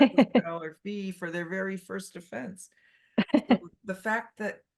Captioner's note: laughs